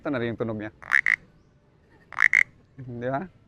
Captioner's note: mimics frog croaking